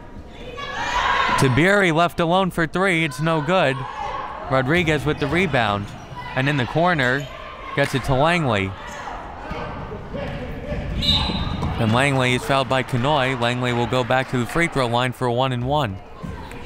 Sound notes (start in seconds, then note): 11.0 whistle